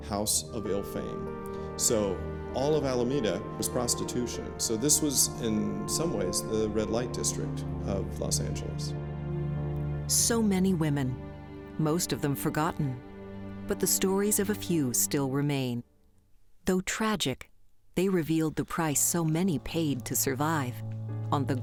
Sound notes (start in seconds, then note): 16.2 dramatic music; 16.2 footsteps clopping